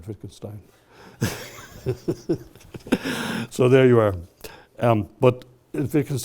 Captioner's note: laughs